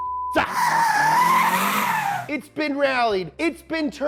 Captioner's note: car screeching